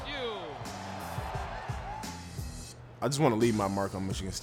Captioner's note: cheers